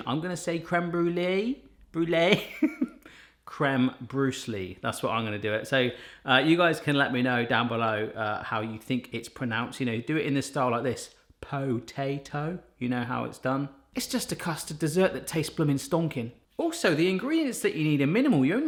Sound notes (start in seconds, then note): 2.4 laughing